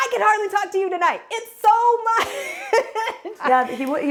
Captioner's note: laughs